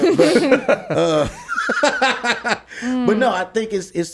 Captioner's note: laughs